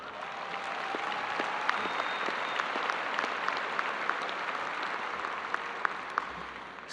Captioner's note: audience applauding